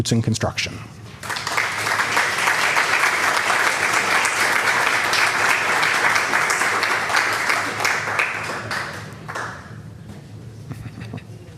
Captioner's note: applause